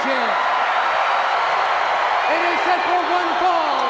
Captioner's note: crowd shout